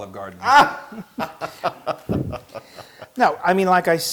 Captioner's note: laughs